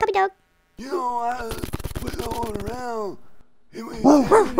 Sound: grandpa mumbling; dog shaking; bark bark

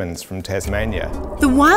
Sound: wind

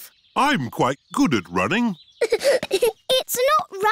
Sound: giggling

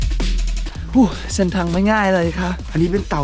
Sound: sigh

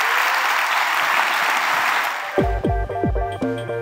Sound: applause

